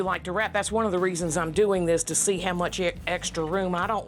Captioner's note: none